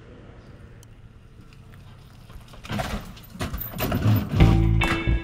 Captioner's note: boat rattling